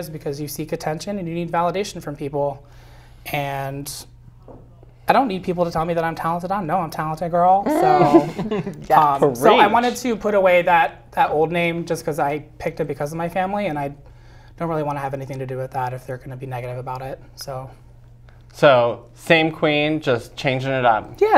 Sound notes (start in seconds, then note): 7.7 laugh